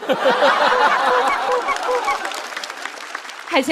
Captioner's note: quack quack quack